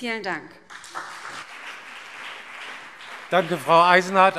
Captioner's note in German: Beifall BÜNDNIS 90/DIE GRÜNEN und CDU